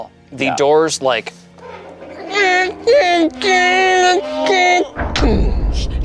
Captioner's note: imitates creaking and thudding